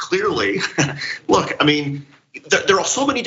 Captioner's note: laugh